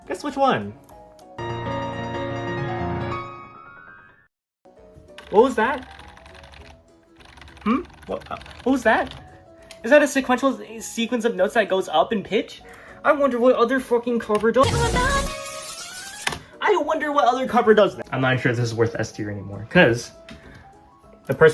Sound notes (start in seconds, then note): 0.8 piano playing; 3.1 sequential sequence of notes that go up in pitch sound effect; 7.1 rapid key pressing